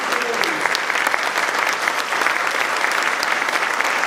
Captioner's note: applause